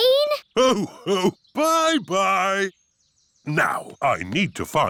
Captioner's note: laughs